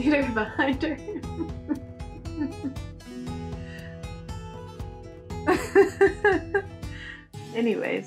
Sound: laughter

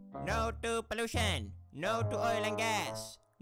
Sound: none

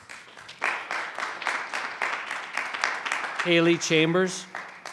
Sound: audience clapping

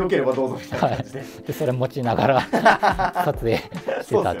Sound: laughing

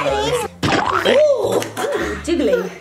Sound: laughs

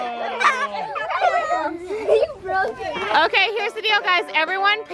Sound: chattering

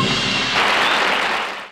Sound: audience applauding

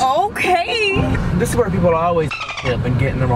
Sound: dolphin squeaks

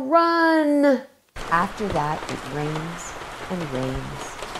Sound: rain splashes

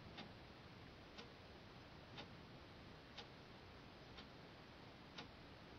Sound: A clock ticking

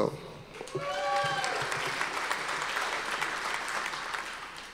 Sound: audience applause

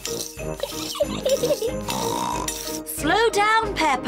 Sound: giggles and snorts

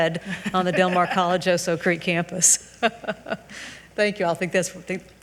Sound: chuckles

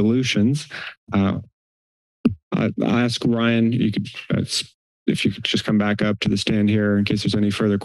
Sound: inhales

